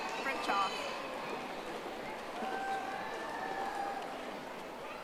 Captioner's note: audience applauding